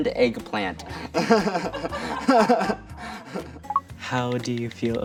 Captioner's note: laughter